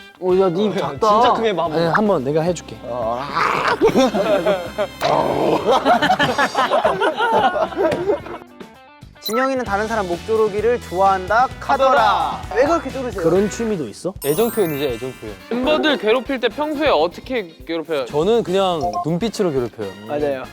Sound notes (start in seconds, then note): 5.9 ha ha ha ha ha